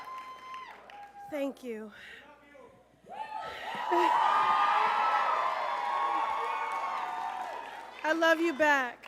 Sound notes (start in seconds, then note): 3.1 crowd cheers